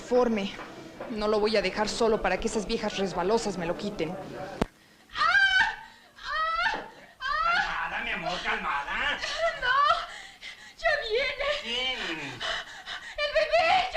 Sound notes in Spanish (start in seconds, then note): 5.1 Gritos